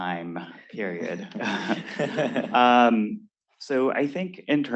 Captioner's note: laughter